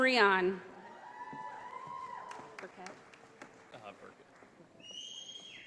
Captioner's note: audience applauding